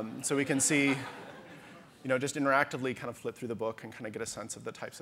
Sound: audience laughter

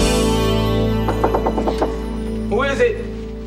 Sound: knock on door

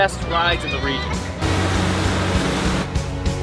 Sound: boat engine roaring

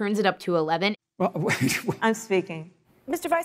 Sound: laughs

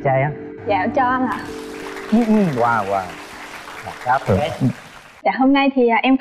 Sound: clap

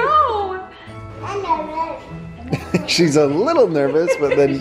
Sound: baby mumbles

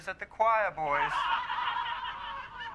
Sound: laughing from show

